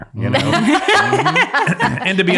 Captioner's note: all laugh